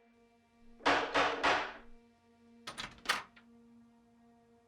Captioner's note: door banging